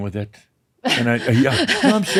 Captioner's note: she chuckles